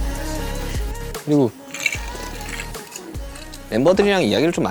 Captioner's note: sip